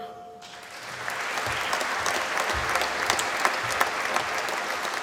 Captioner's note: applause